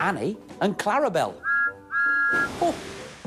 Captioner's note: thomas whistles